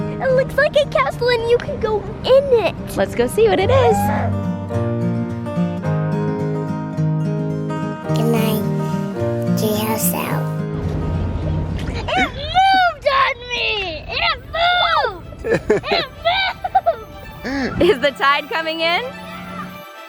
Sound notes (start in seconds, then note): 0.0 gentle upbeat music; 4.1 gentle upbeat music; 15.4 laughs